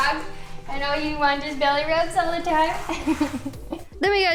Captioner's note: laughter